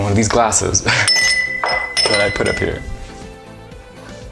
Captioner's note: glass ringing